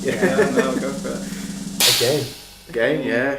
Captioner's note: laughing